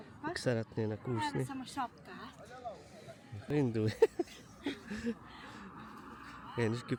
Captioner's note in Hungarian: nevetés